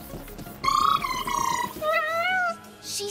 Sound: trilling; meowing

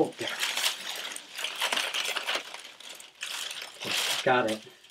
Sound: corn stalk rustles

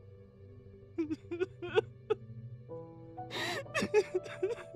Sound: Casey cries

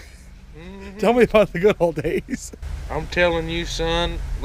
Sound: laughs

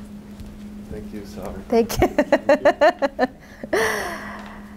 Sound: laughs

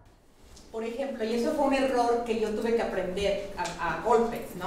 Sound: speaking in Spanish

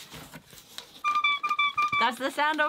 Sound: squeaking

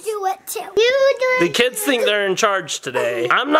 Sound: children cheering

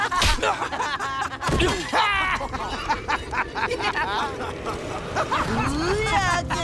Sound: laughing

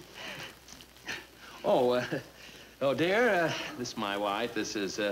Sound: laughs

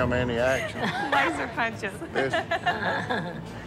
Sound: laughing

